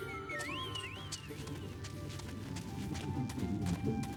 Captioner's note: whistling